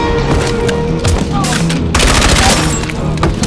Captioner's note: dramatic music; men grunting; gun bangs